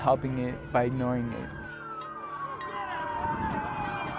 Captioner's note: siren